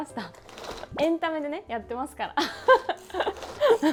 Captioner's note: laughter